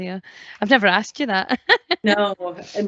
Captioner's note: laughs